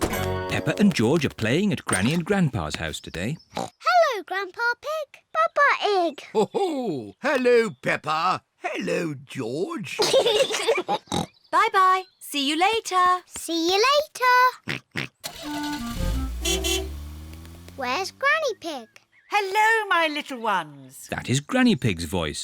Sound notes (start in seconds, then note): 9.9 peppa and george giggle; 14.6 oinks; 15.2 horn beeps